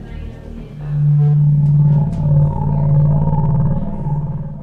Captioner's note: eerie vibrations